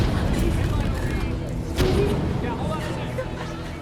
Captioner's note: cries